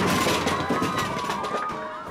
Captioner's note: cheering